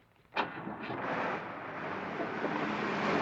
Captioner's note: engine Starts